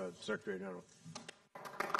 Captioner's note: applause